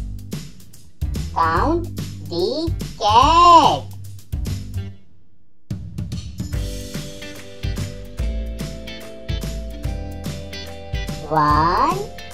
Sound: cat Sound

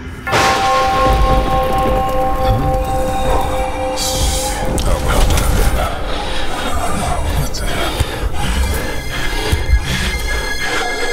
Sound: thunder; growling

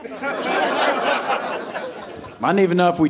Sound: audience laughing

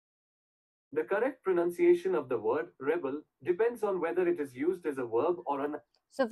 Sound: Automated Bard voice

